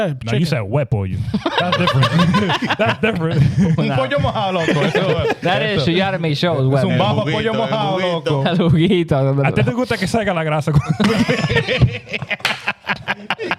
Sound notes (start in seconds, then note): 1.3 laughing; 5.3 speaking Foreign Language; 6.8 laughing; 6.8 speaking Foreign Language